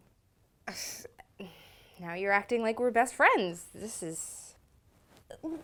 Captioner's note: snigger